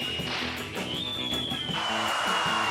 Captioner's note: bat cracks; ball whistling